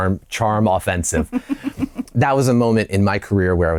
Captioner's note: laughter